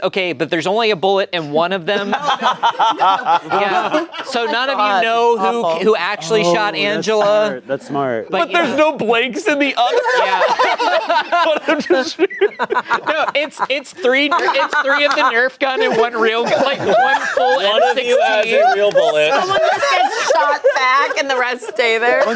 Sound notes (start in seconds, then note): 2.0 laughing